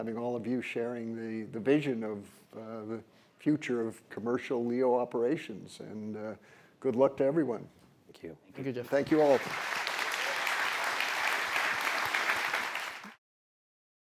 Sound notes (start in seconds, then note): 8.8 applause